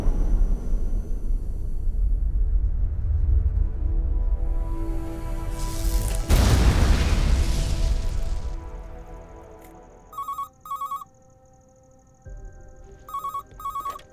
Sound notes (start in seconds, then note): 6.1 blasting sound; 10.1 phone ringing